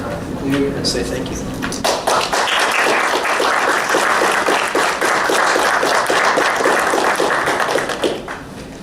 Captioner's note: applause